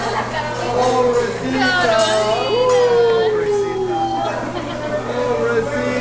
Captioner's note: laughter